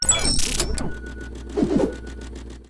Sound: high pitched chime plays; boxes swooping

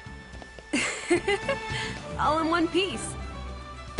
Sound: laughs

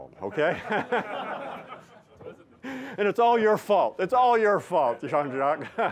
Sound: laughter

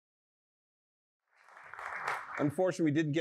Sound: applause

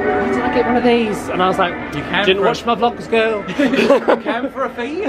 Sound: laughs

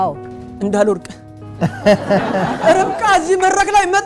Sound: laughter

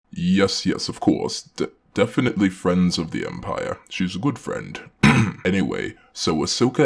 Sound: ahem

